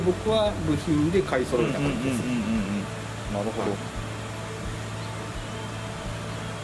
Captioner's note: laughs